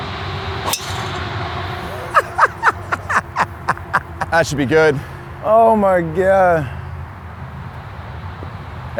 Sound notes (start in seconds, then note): 1.8 laughs